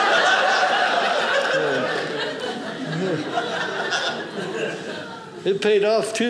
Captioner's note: audience laughing